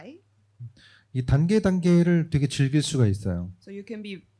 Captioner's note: speaking korean